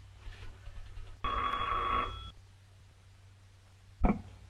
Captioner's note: phone rings